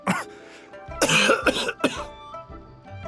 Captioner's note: cough